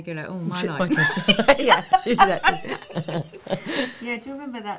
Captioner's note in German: lachen